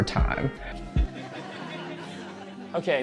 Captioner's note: audience laughter